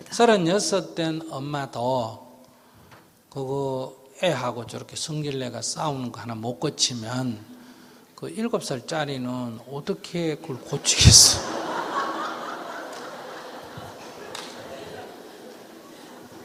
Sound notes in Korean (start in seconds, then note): 12.9 청중 웃음